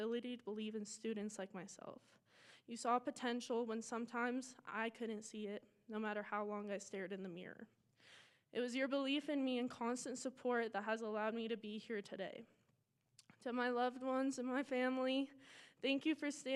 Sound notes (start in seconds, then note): none